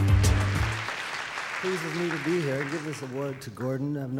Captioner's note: audience applause